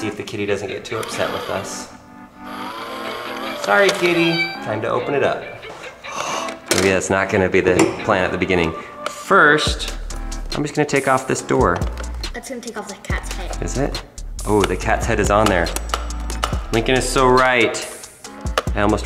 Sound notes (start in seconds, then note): 2.5 gears turn; 4.0 cat meows